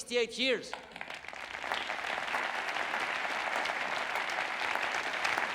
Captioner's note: audience applauding